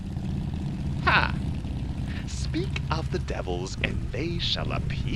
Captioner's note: sfx: cars and motorcycles pull up en masse